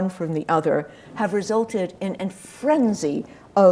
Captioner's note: none